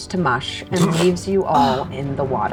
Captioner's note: snorting